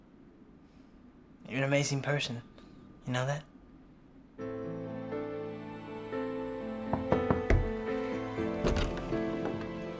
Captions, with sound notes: - You're an amazing person, you know that? (gentle electronic music) (door knocks)